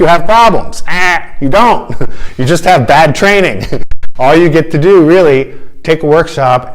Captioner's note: funny sound